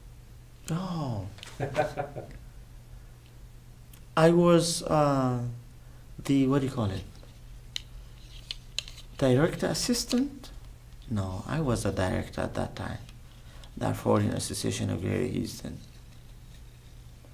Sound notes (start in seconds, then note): 1.5 laughs